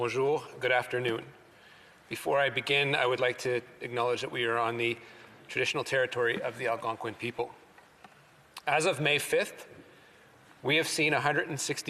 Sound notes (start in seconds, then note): 4.3 speaking French